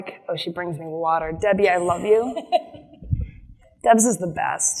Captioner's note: laughs